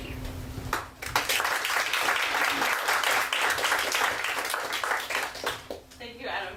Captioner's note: applause